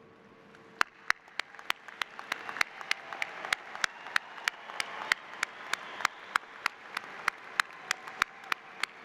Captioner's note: applause